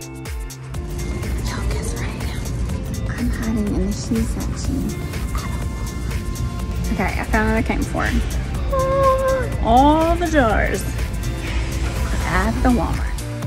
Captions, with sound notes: (whispering) Yo, guess where I am. I'm hiding in the shoe section At a Walmart. Okay, I found what I came for. All the jars at the Walmart.